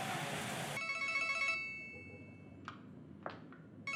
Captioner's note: ringing